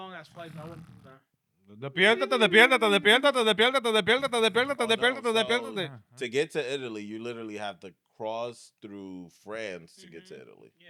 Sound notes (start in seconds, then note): 1.8 speaking In Foreign Language